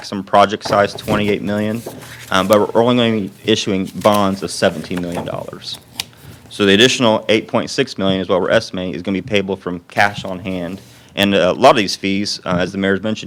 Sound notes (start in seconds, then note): none